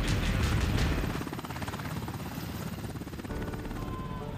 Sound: chopper hovering overhead

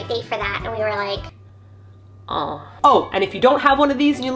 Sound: chipmunk voice

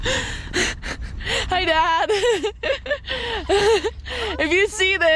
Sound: laughing

